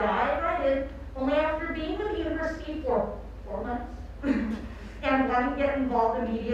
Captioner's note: laughs